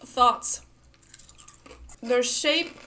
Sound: crunching sounds

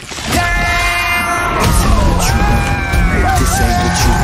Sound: screaming

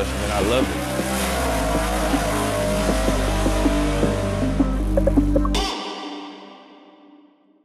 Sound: car engine revving

